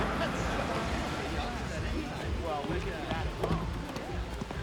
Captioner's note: laughing; chattering